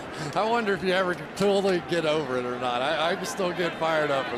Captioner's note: laughs